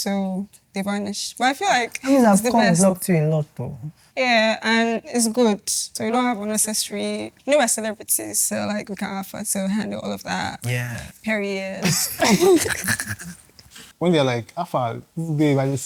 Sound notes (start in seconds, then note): 11.8 laughs